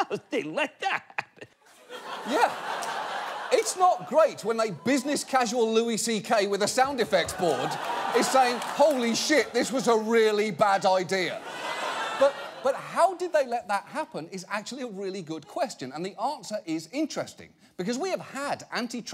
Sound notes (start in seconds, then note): 1.6 audience laughing; 11.2 audience laughing